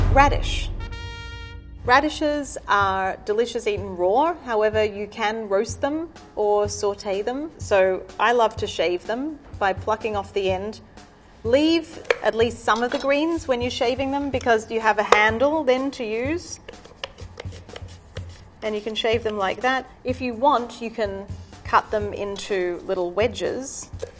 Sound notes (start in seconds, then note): 16.6 radish grinding on mandolin